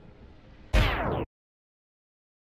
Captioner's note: pause sound effect